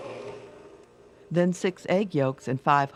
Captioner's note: voiceover